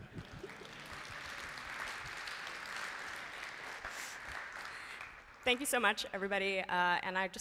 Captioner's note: applause